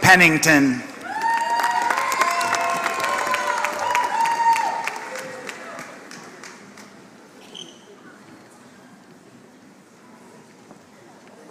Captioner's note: applause